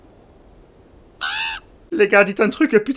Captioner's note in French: croassements